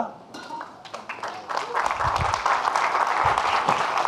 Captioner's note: audience clapping